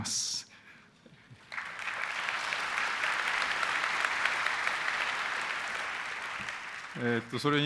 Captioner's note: applause